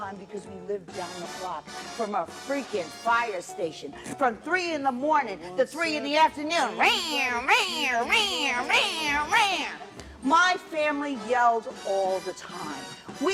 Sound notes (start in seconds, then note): 6.8 voiced alarm sounds